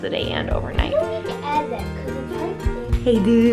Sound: kids talking

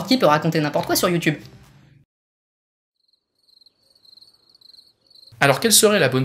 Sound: noise nocturnal insects

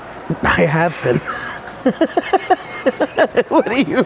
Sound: laughs

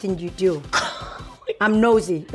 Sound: laughter

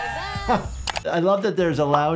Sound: doctor laughing

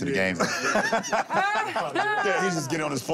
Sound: laughter; Lisa laughs sarcastically

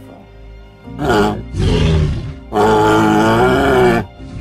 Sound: triceratops sounds

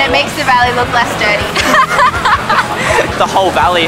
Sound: laughs

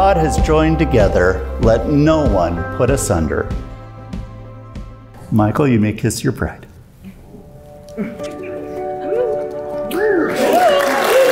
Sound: cheering

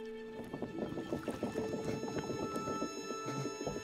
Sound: sounds of water and wood creaking

